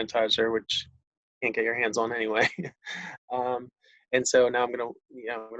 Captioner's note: sniggers